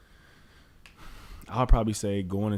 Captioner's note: Allen sighs